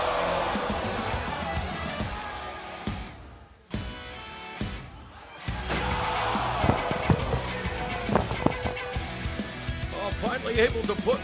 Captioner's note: cheers and applause